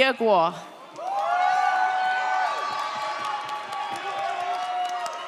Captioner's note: audience cheers